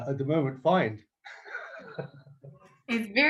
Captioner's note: laughs